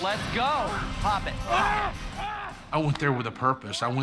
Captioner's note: grunting